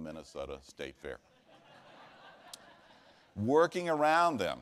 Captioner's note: laughter